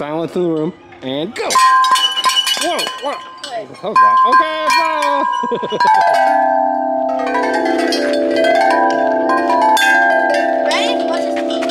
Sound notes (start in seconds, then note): 1.9 chimes ring loudly; 5.2 laughing; 6.9 chimes ring loudly